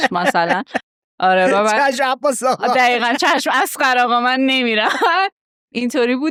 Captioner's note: laughing; laughs